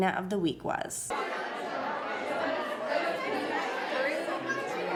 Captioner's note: crowd chattering